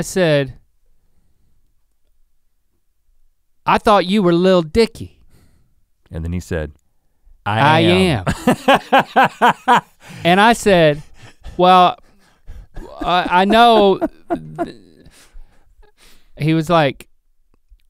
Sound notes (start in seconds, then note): 9.2 Rhett laughing